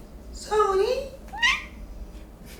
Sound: meows

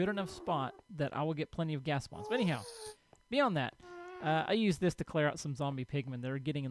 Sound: ghast squalls; ghast squalls

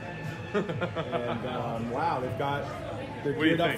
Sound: laughs

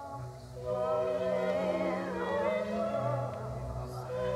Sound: Franky groans and yells

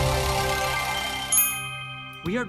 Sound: dinging

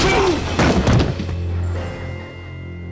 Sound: thudding

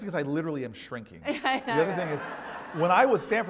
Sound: laugh

